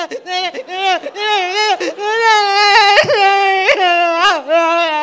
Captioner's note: sobbing